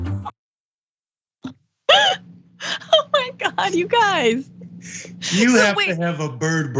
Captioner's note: laugh